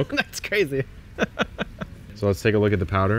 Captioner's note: chuckles